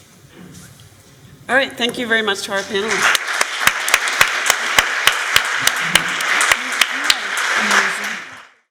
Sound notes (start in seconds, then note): 2.6 applause